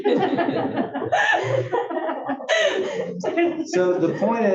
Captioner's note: laugh